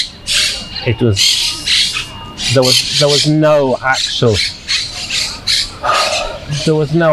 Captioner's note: sighing